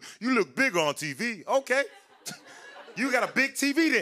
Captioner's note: laughter